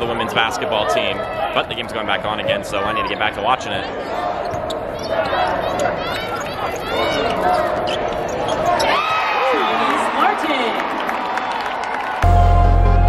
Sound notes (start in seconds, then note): 6.0 crowd cheering